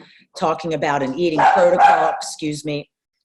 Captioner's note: dog barking